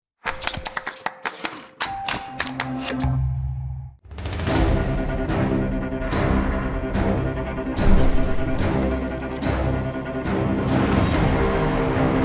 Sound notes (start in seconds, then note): 0.3 clapping; 4.3 dramatic music